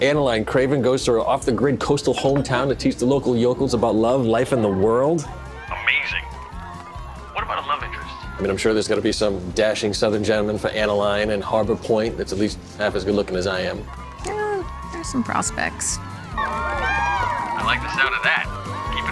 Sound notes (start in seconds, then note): 16.4 cheering